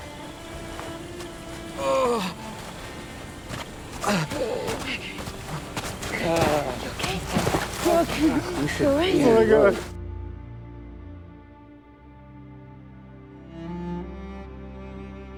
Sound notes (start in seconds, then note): 1.4 Jaeden groans in pain